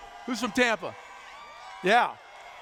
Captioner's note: cheers